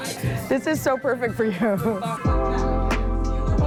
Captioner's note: chuckles